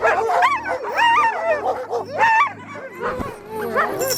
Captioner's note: barking